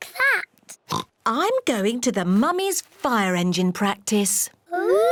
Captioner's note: oinks